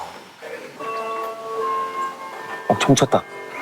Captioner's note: sound of the bell